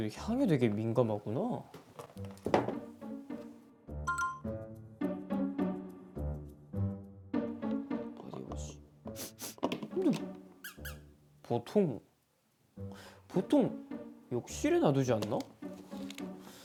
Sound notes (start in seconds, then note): 9.1 sniffing